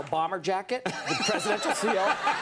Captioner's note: Conan laughs; audience laughs